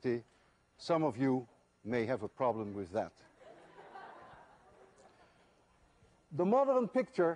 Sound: laughter

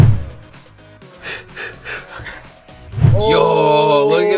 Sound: sighs

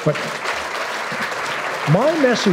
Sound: applause

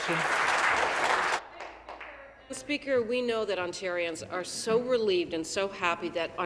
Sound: applause

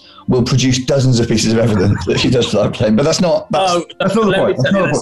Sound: sniggering

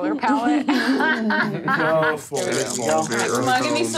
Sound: laughs

